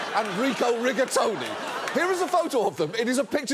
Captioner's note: audience laughs